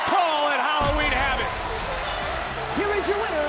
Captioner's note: bell rings; music plays